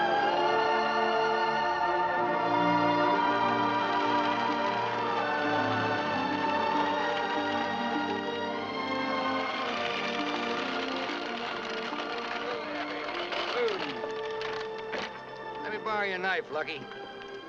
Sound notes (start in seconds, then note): 8.0 horse trotting